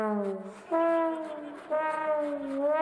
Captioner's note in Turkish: Gülme efekti